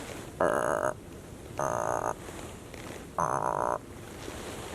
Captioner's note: mimics deer bleats